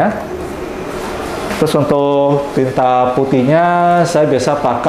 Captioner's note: printer machine sound